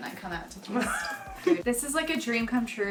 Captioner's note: laughing